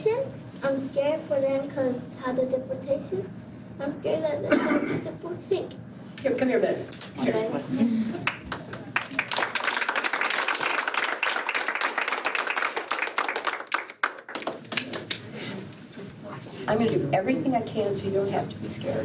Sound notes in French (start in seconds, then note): 8.2 l'assistance applaudit